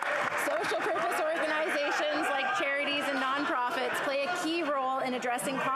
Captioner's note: applause